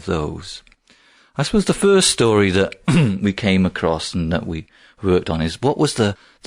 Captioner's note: throat clear